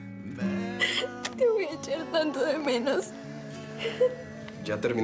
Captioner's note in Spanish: Sollozos